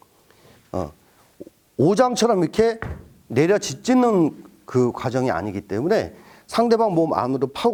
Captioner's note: axe Pounding